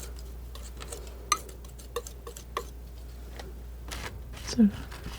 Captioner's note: scratching